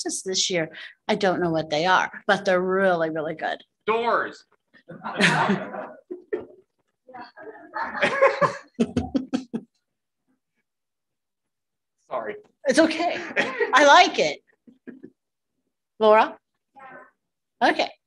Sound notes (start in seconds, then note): 4.5 laughter